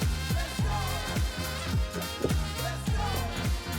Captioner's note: Gludduk gulduk